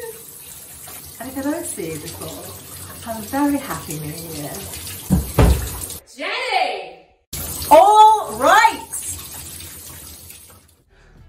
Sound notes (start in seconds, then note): 5.1 loud knocking; 6.7 shouting